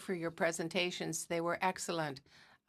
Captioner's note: speaking in french